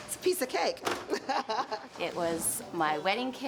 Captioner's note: laughing